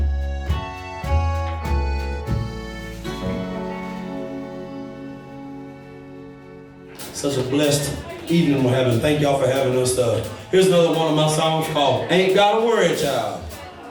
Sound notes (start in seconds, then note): 0.1 upbeat music; 8.0 murmurs